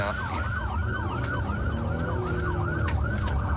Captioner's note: engine guns